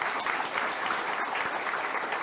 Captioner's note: audience applauds